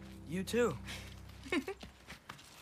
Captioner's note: laugh